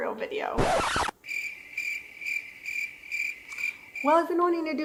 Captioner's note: crickets